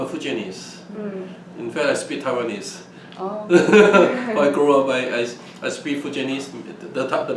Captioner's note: laughs